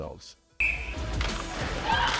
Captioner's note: whistle blowing; upbeat electronic music